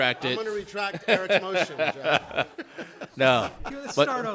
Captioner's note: laughs